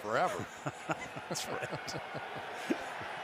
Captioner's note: chuckles